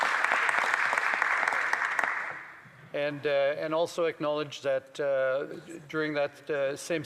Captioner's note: applause